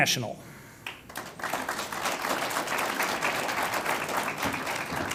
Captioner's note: audience applauds